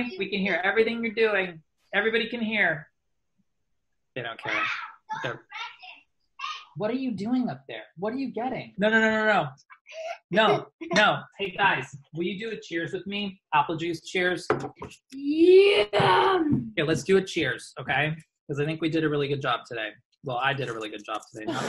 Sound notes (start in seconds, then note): 6.4 child yelling; 10.0 child laughing; 14.5 thumps on table; 21.4 laughs